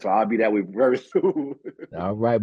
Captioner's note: chuckle